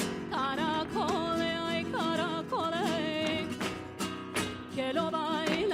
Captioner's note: heels rhythmically clicking